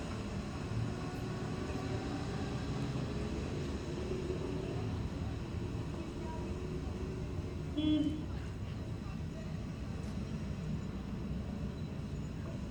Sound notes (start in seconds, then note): 7.8 vehicle horn honks